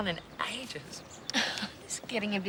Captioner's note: laughs